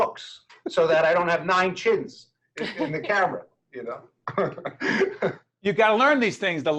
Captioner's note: laughing